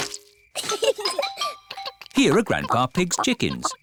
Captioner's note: both giggle